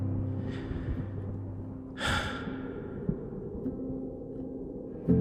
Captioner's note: inhale, exhale